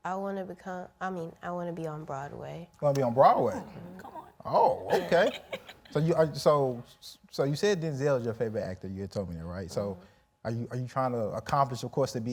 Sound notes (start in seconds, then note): 4.8 laughing